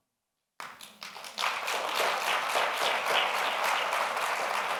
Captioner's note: audience applauds